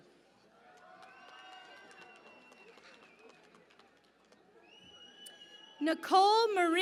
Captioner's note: cheering and Applause